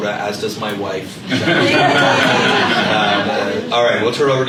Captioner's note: laughter